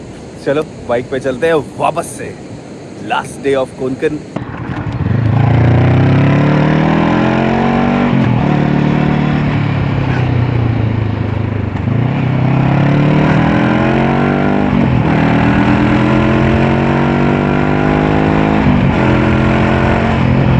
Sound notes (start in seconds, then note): 12.2 engine thrum